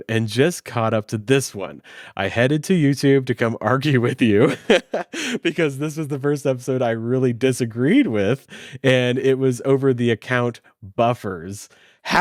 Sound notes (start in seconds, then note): 4.4 laughs